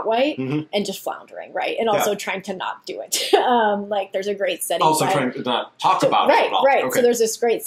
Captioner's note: laughs